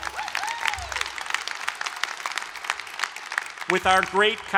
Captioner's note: applause